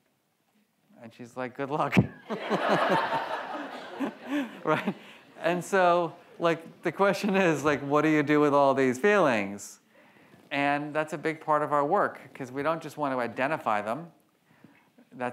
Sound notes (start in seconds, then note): 2.2 audience laughs; 2.2 laughs